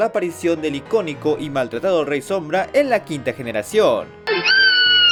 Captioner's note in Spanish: Gritos